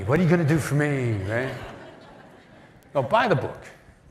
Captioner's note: laughter